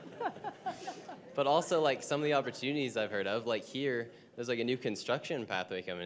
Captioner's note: laughter